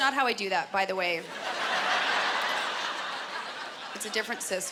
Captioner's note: laughter